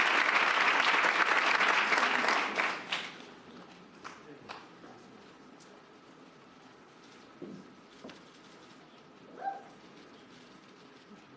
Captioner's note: cheers and applause